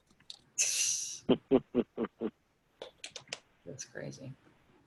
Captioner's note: laughing